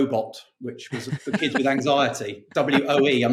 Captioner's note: laughing